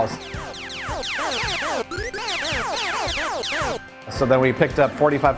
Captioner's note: video game sound effects